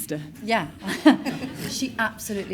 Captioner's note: all laugh